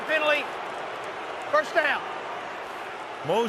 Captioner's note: booing